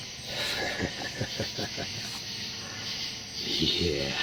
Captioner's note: Buck laughs